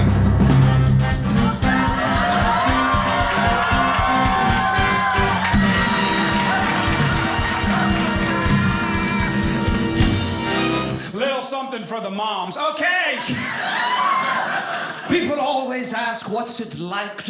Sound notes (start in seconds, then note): 1.1 audience cheering; 5.6 audience applauding